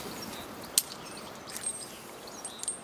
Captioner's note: click